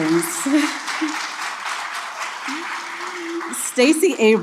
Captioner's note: chuckles, applause